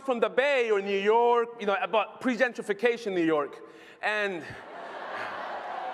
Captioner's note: laughter